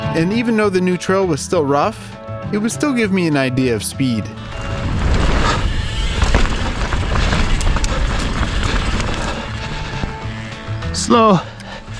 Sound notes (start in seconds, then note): 4.3 bike tires rumbling